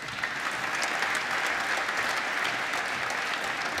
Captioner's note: applause